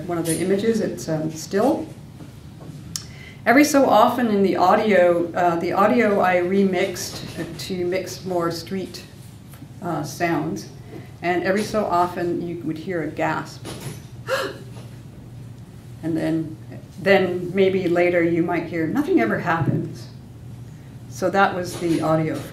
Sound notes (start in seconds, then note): 14.2 imitates gasp